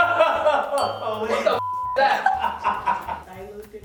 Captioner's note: laughing; beep; laughing